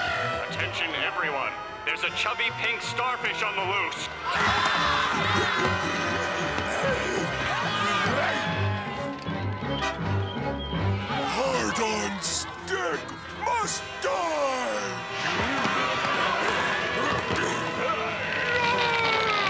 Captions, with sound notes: Attention, everyone! There's a chubby pink starfish on the loose! [screaming] Heart on stick must die! [screaming]